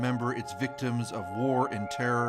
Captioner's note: sirens